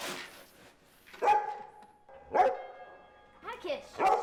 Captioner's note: barking